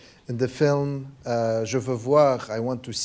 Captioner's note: speaking a foreign language